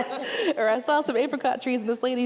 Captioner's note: all laughing